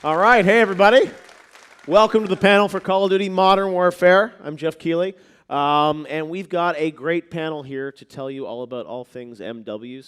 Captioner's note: applause